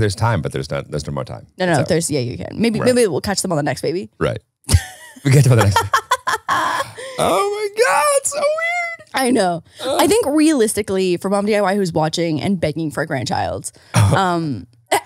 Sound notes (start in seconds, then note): 4.7 laughing